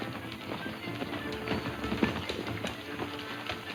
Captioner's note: hooves clopping